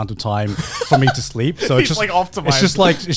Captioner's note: laughs